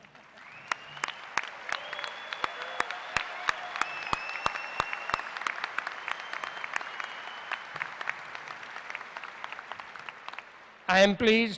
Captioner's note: applause